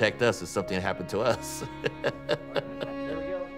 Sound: laughs

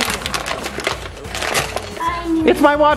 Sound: paper crinkling

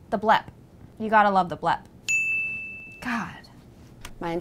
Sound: bell dings

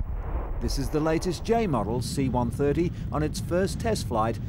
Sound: boom

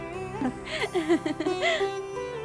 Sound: laughs

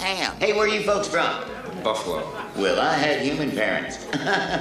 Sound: chuckles

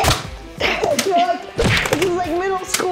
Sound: smacking sounds continue

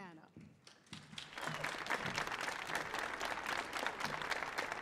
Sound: audience applauding

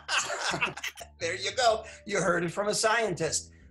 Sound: laughter

